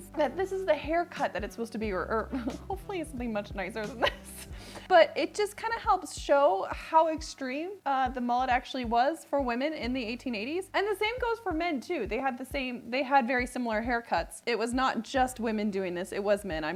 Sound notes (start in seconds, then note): 2.3 laughs